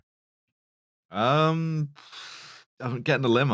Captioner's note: blows out gently